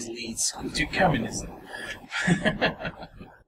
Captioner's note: laughs